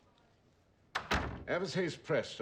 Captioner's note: door shuts